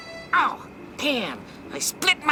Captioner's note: fabric tearing